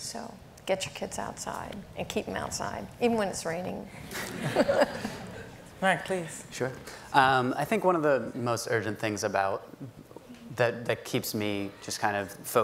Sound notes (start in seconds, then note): 4.1 everyone laughing